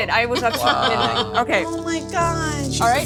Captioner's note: laughing